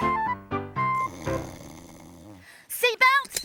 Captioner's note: Groove snoring